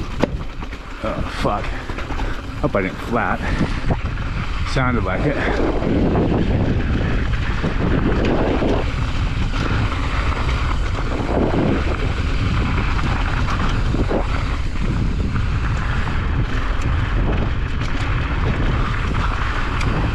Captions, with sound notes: (wheel pops) Oh fuck. Hope I didn't flat. Sounded like it. (wind rushing)